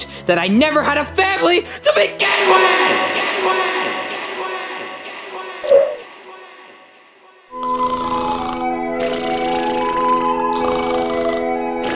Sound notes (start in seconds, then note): 3.1 voice repeatedly echos